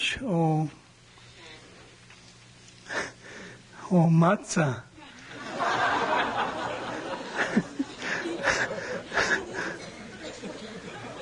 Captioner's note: laughs, laughter